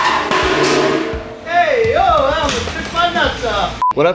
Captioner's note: grinding noise; yelling